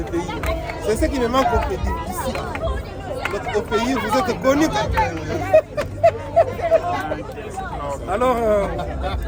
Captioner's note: laughs